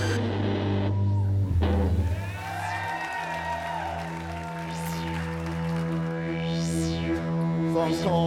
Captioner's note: applause